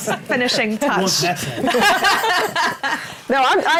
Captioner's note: laughs